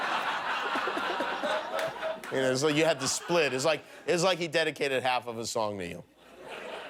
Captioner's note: laughter